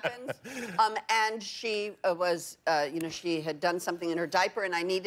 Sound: laughter

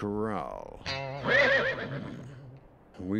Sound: whinnies

